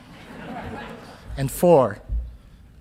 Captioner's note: audience laughing